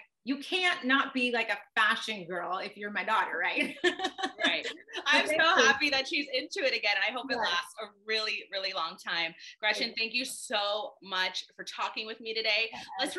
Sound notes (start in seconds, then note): 3.7 laughs